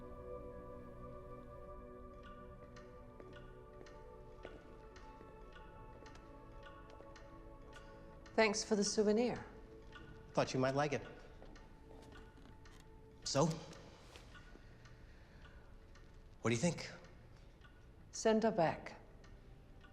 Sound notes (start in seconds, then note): 2.8 cat statue ticking